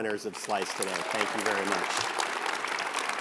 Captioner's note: audience applauds